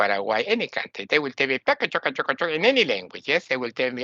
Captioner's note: imitates foreign language